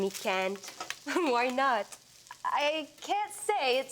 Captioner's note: laughing